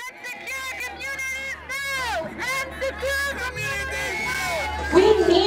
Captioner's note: chanting